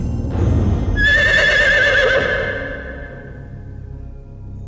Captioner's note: horse neighing